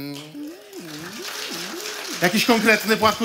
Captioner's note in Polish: oklaski